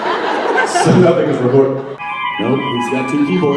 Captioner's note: audience laughs